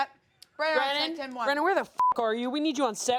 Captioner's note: beep